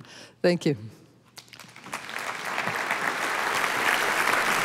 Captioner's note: applause